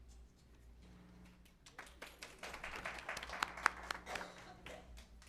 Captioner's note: applause